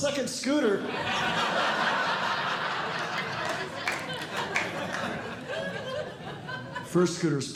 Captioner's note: audience Laughing